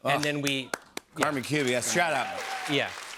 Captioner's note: cheers and applause